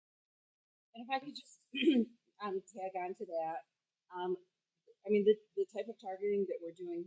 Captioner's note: cough